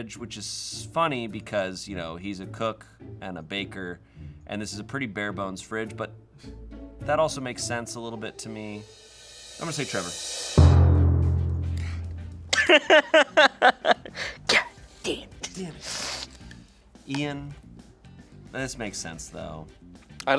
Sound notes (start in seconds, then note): 10.6 thud booms; 12.5 laughing